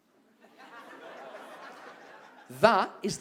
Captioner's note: audience laughs and murmurs